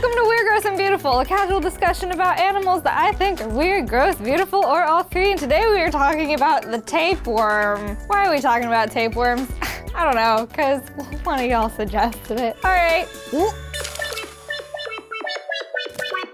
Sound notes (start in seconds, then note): 14.5 gagging